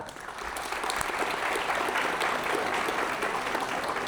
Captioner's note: applause